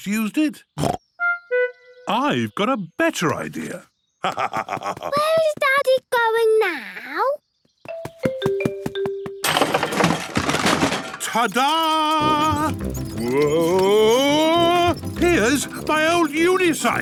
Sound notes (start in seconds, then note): 4.2 laugh